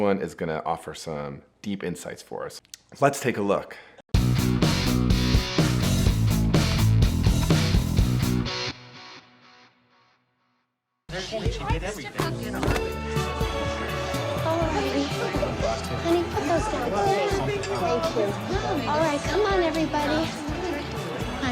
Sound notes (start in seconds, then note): 4.1 rock music; 11.2 people chattering; 11.2 upbeat music; 12.8 guests murmuring